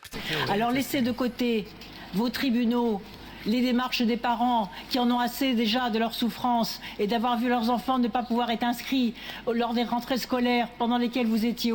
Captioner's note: speaking in French